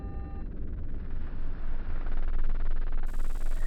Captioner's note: static